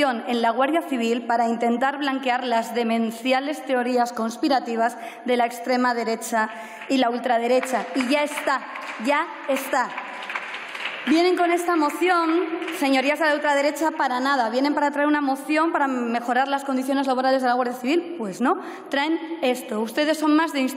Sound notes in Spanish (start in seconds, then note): 9.6 Aplausos